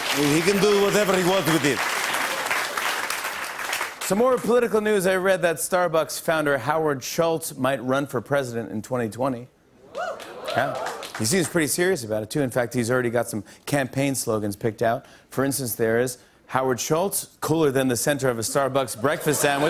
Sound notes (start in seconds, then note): 9.9 cheers; 18.9 laughter and applause